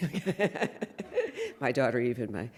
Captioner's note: laughs